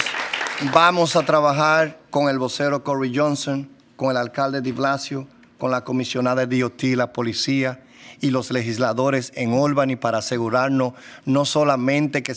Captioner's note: applause